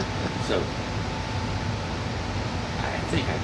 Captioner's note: laughs